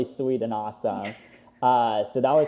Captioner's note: laughs